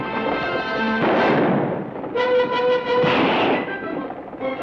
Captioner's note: gun fires